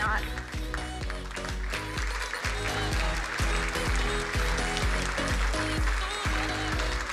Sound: crowd applauding; upbeat music

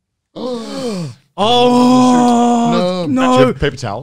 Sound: both gasp

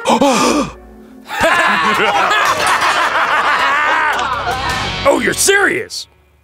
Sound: laughing

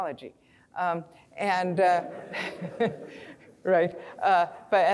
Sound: audience laughing

